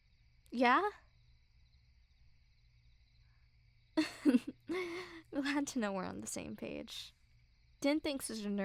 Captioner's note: soft chuckle